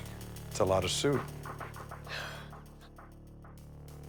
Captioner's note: sighs